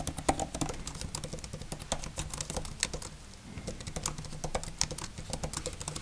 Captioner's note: Logitech Combo Touch clacking